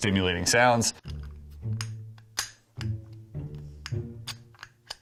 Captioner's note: lock clicking